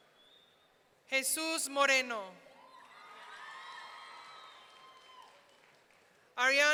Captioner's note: audience cheering